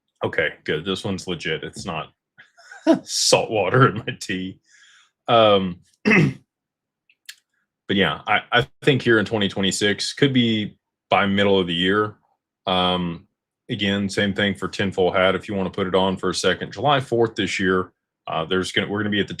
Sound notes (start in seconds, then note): 2.6 laughter; 6.0 clears throat